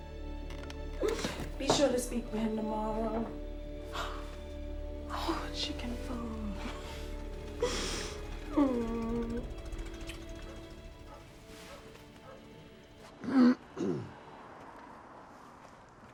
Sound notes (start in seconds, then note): 9.0 car approaching; 10.2 dog barking in distance; 13.7 clearing throat